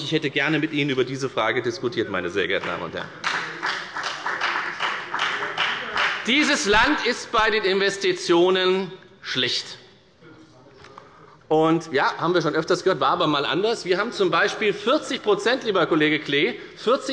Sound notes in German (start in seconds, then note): 3.1 Beifall bei der FDP